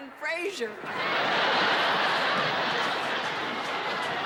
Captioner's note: laughter